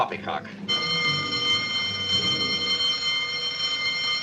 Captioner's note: bell ringing